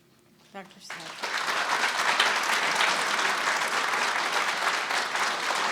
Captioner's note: audience applauding